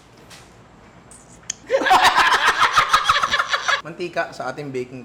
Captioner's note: laughter